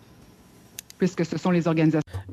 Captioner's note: speaking in French